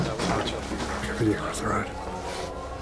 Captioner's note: officer whispers